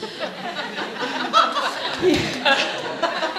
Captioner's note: laughing